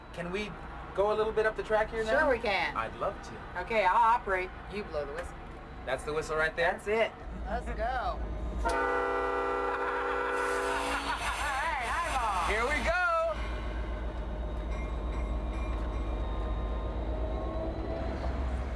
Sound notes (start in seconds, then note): 8.6 train whistle blaring; 10.8 LeVar laughing; 13.2 train bell clanking